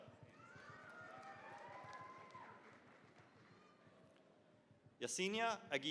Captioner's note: cheering, applause